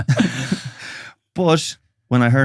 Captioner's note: both laughing